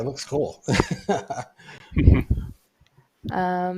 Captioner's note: laughter